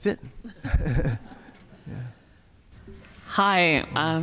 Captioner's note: laughs